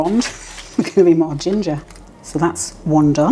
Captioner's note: laugh